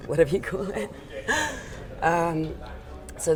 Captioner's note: laughter